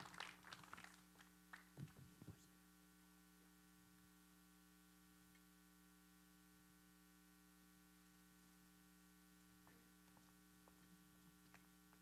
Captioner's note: applause